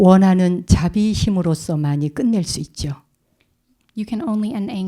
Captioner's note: speaking in Korean